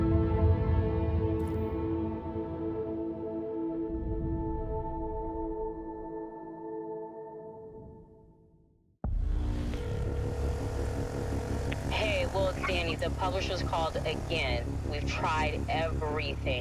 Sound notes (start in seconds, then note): 9.6 line trilling